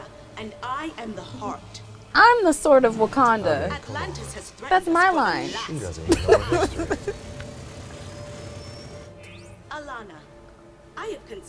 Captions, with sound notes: And I am the heart. -I'm the sword of Wakanda! -I mean, come on. -That's my line! [laughs] -She doesn't know history. Elanna, I have considered your words.